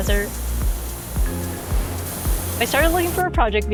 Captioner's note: air deflating